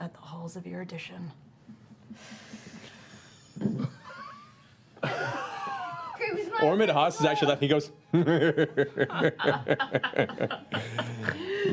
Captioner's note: laughs